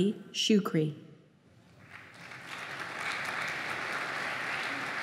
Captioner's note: applause